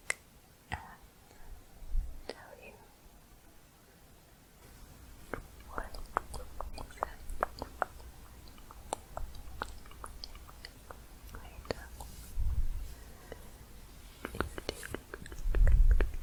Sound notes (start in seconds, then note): 0.0 tongue clicking; 8.7 soft tongue clicking